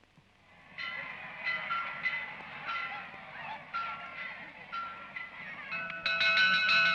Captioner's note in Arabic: صخب الحشد; رنين الجرس; يرن الجرس بصوت أعلى